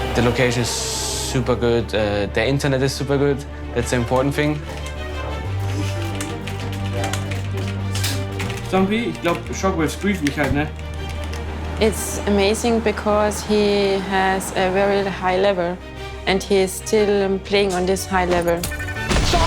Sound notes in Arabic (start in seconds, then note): 5.4 نقر على لوحة المفاتيح; 8.6 على سماعة الرأس; 9.2 تحدث بالألمانية